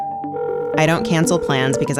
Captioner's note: doorbell ringing; phone ringing